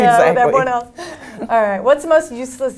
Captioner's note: laugh